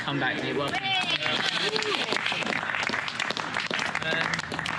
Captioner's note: applause